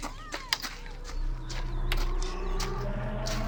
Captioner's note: shouting